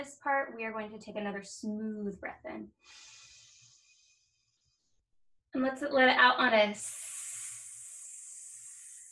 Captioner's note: sssssss